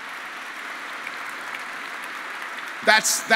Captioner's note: applause